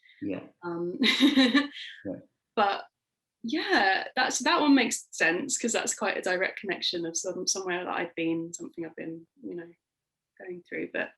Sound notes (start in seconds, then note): 1.0 laughing